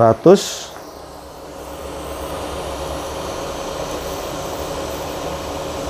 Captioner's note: printer machine noise